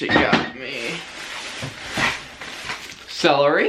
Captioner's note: plastic crinkling